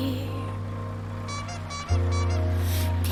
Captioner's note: horn squeaking